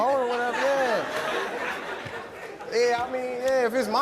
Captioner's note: audience laughing